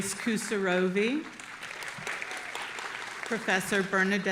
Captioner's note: audience applauding